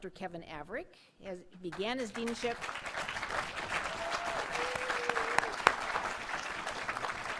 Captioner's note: applause